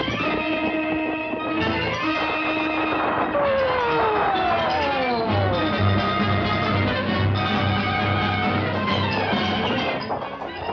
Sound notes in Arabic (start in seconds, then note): 3.2 صفارات الإنذار تصرخ; 6.3 تستمر الموسيقى الدرامية المتوترة